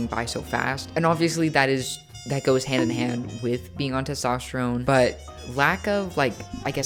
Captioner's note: bonk